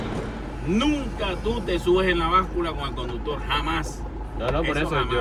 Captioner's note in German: auf Spanisch